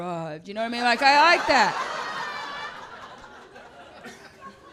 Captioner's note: audience laughs